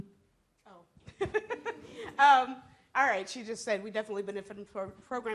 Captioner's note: laughs